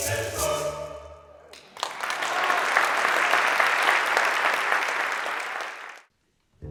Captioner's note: applauding